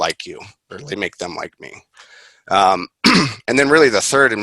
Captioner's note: clears throat